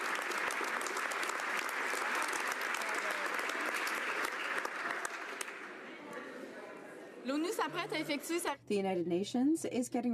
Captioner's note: some Applause